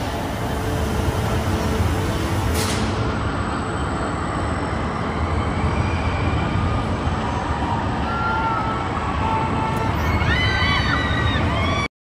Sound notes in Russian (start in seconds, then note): 0.6 Слышны крики людей на аттракционе